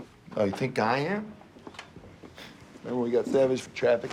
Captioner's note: scoffs